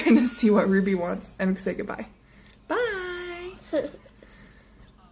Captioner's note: whining: no no, that!; giggles